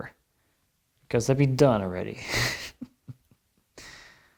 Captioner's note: chuckles